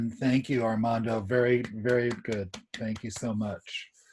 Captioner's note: clapping